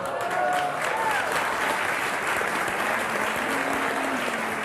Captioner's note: audience applauding